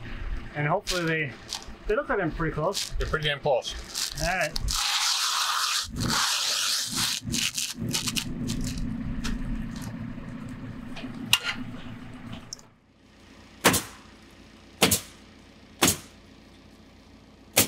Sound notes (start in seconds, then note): 6.1 shingles scraping on roof; 13.7 nail gun bangs